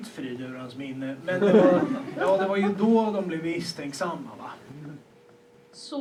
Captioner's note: laughter